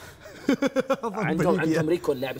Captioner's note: laughs